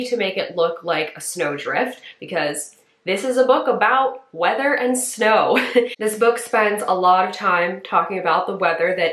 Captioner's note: chuckle